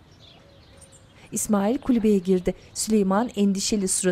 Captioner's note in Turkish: Kuş cıvıltısı sesleri